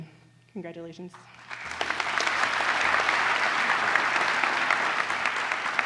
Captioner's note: applause